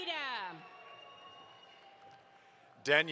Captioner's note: audience applauds